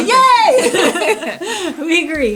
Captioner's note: both laughing